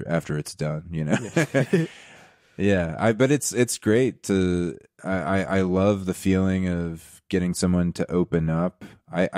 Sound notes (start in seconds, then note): 1.2 laughing